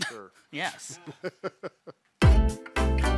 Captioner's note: laughs; upbeat music